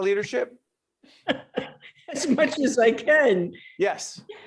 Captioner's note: laughing